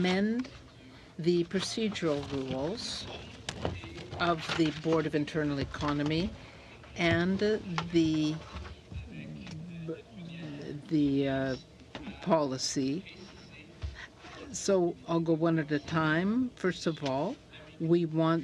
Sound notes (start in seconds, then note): 3.5 speaking in french